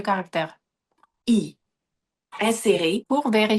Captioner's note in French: Voix de synthèse